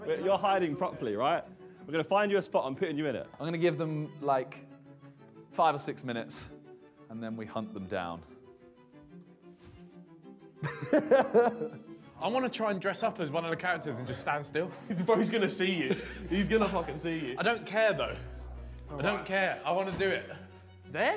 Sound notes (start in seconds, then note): 10.6 Simon laughs